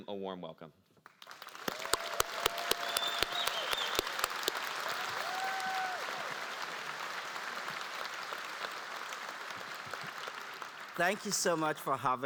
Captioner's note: applause